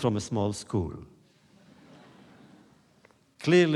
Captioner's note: laughter